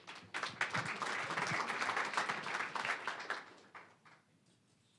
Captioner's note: applause